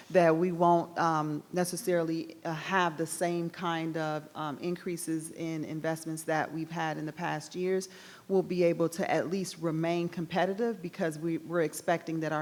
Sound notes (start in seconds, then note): none